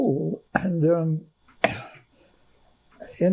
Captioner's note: coughing